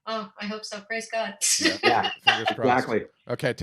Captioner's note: laughs